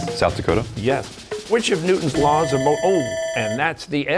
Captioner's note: bell ringing